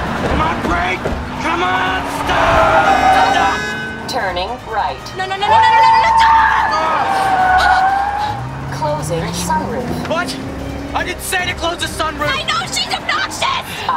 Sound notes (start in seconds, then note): 7.2 tires screeching